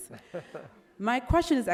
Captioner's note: laughs